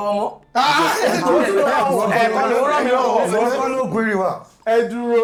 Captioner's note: laughs